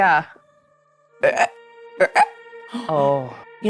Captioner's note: croaking